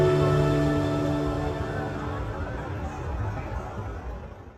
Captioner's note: people chattering